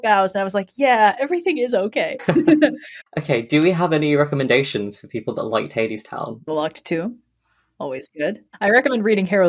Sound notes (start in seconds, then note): 2.2 laugh